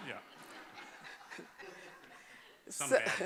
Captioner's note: laughter